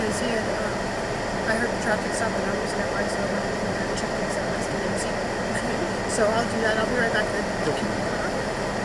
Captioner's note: giggles